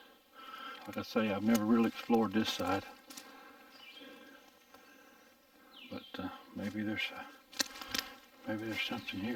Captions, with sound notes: Like I say I've never really explored this side. (birds chirping) But maybe there's something here.